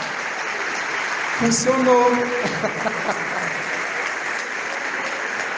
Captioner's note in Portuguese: risadas